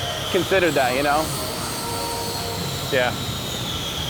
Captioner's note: tools whirring